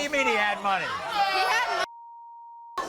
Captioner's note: audience shouts